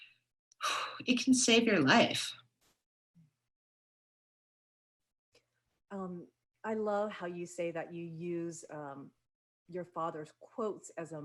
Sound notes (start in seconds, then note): 0.6 sighs